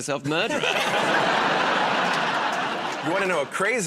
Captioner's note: laughter